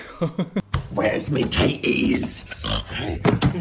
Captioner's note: chuckles; feet thumping; snorting and grunting; fridge contents thumping